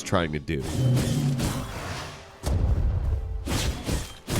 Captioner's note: sword swinging